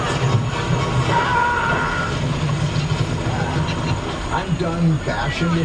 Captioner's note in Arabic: موسيقى مشوقة; يصرخ الممثل